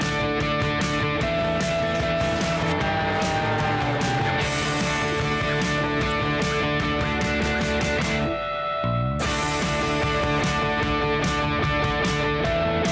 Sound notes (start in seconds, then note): 3.6 energetic rock music; 3.6 plane engine roars